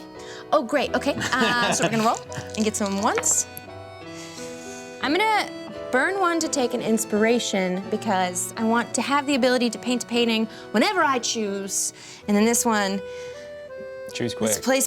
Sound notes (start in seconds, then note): 1.0 laughs; 4.4 soft accordion music